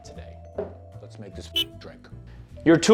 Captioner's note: car horn sound